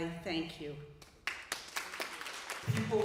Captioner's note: applause